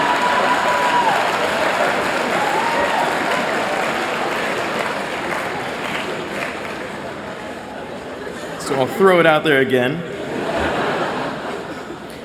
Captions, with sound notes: [APPLAUSE] So I'll throw it out there again.